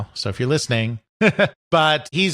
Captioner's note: chuckles